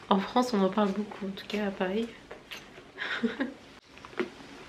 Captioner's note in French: rires